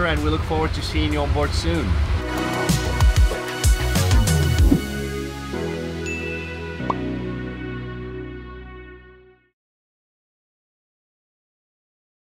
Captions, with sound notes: and we look forward to seeing you onboard soon. (bell dings)